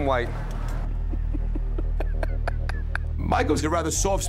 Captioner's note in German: lacht